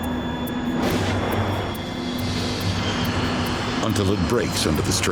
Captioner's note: metal ripping